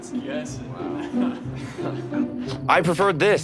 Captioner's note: laughs